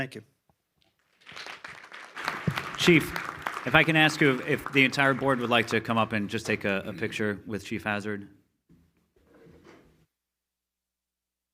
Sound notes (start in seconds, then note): 1.0 all applauds